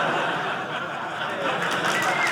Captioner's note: audience laughing; audience applauding